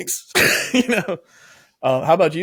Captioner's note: laughs